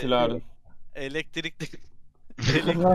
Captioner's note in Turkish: gülme